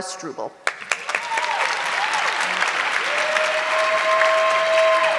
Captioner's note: audience clapping